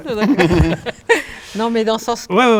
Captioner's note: laughs